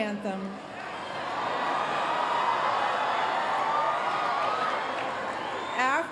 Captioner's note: cheering